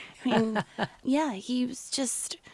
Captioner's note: interviewer laughs